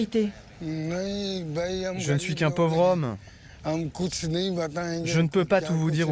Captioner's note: Ghani speaking foreign language